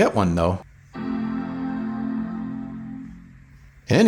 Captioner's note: Dramatic Mac Startup Sound